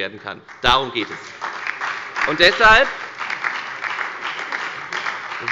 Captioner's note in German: Beifall bei der FDP, der SPD und der LINKEN